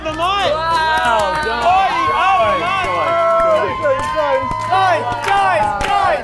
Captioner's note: everyone cheering